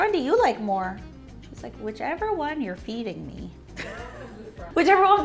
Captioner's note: laughs